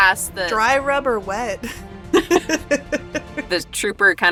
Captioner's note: laughs